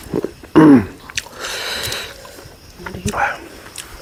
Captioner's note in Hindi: गला साफ़ करने की आवाज़